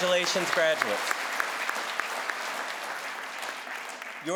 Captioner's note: crowd applauds